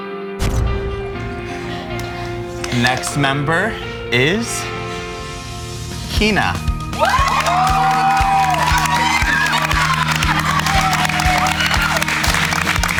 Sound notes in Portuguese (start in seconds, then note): 7.0 Aplausos